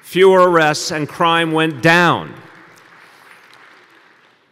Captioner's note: applause